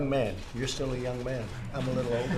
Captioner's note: laughter